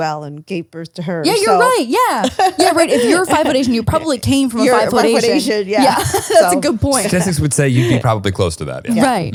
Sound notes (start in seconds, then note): 5.8 laughs